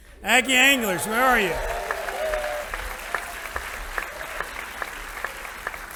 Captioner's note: audience applauding